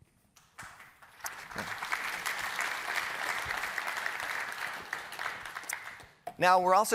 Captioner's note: applause